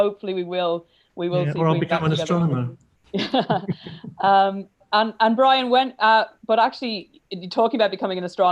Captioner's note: laughter